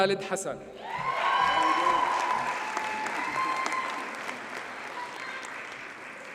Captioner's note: audience cheers and applauds